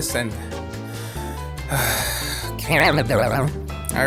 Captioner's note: sigh